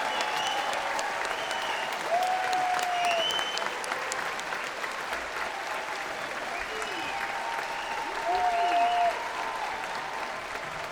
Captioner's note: applause